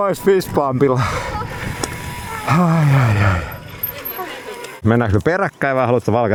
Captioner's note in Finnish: huokaus